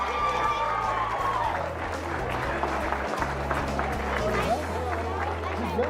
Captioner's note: cheering